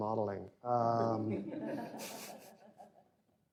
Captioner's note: laughter